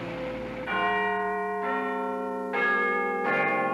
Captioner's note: chimes